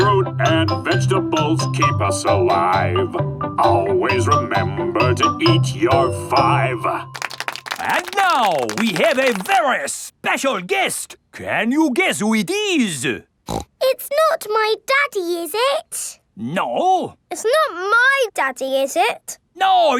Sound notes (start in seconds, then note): 7.1 applauding; 13.4 snorts